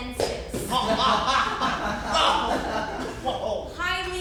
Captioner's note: audience laughs